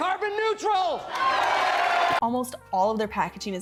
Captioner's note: crowd cheering